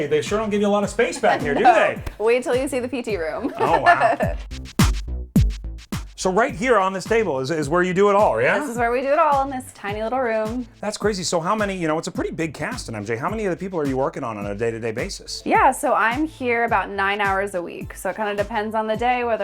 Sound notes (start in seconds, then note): 0.9 laughing; 3.3 laughing; 5.0 deep rhythmic music continues